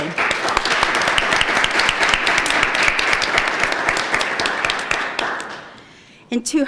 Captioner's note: applause